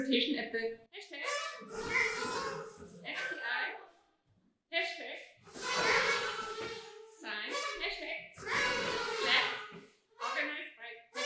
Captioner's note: audience toots